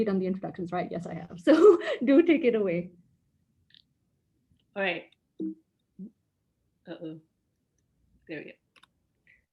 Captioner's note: giggle